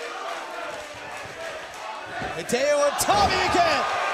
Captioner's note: crowd cheering